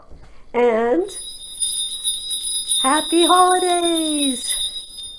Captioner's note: bell ringing